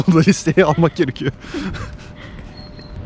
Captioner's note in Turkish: gülüşmeler